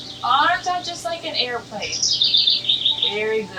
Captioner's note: bird chirps